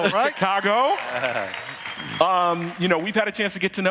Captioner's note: audience cheering